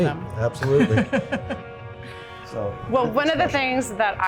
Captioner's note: laughs